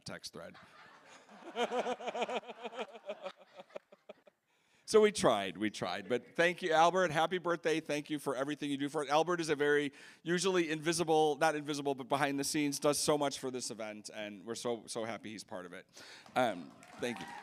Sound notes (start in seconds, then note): 6.6 laughing